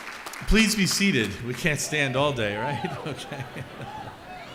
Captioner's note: chuckles